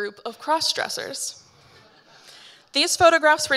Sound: audience laughing

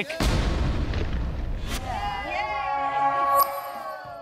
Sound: cheering

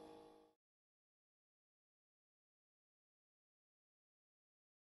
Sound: complete silence

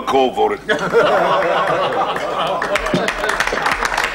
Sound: laughter and applause

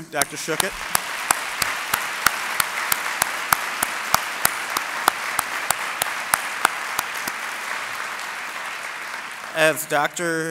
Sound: applause

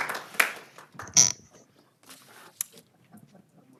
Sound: applause

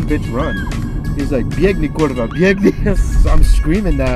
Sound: speaks Polish

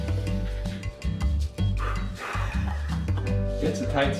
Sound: audible frustration

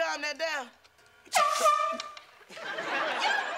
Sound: foghorn blowing

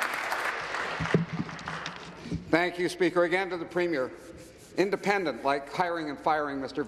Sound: applause

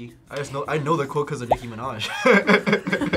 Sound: chuckles; laughs

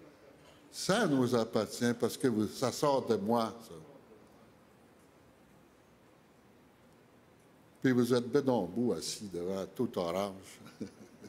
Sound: speaking French

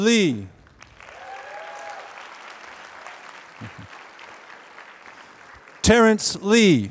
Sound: applause

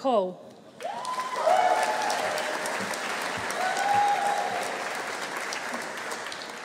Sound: audience cheering; audience applauding

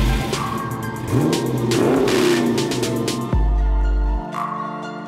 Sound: muffler rumbling

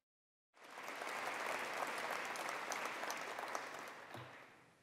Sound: attendees applauding

